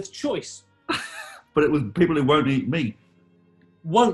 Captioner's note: giggling